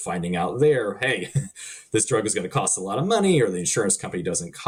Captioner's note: chuckling